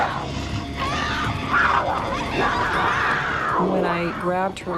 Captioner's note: growling